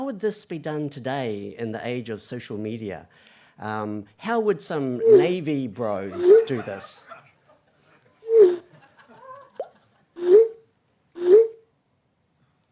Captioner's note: sound of text messages